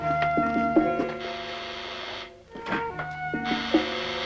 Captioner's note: door buzzer